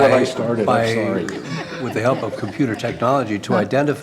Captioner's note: laughter